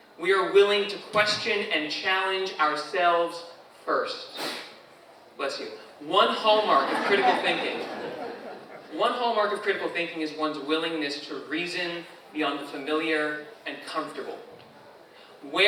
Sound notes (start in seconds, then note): 4.3 audience member sneezes; 6.6 audience laughs